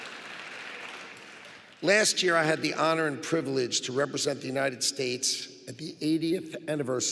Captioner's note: applause